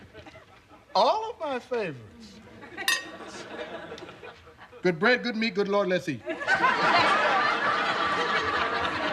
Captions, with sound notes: ALL OF MY FAVORITES. [spoon clinking] GOOD BREAD, GOOD MEAT. GOOD LORD, LET'S EAT. LESTER.